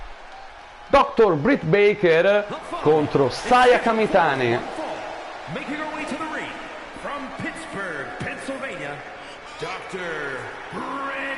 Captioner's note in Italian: Applauso